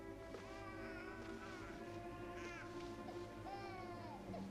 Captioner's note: suspenseful music; baby crying